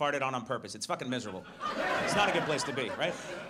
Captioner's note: audience laughs